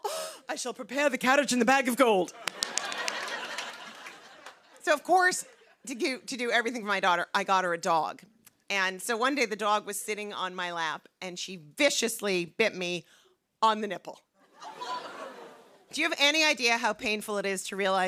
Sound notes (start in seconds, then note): 2.4 laughter; 14.1 audience groans